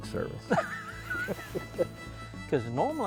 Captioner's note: laughs